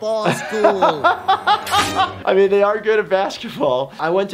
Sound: laughs

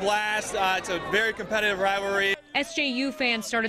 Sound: cheering and applause

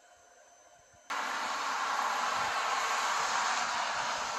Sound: cars passing

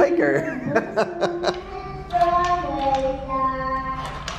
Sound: laughing

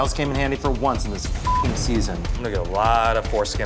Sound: beep

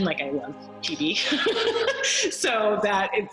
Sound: laughs

